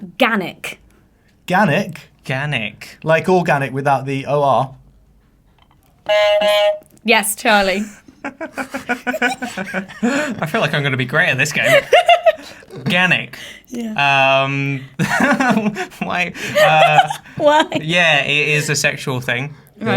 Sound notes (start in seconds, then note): 6.0 buzzer honks; 7.6 laughs; 16.4 laughs